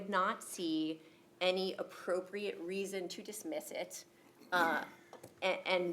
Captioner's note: coughing